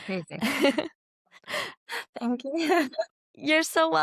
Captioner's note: laughs; laughs